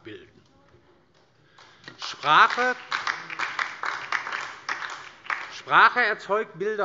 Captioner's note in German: Beifall DIE LINKE